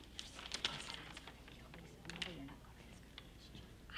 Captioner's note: Sue whispers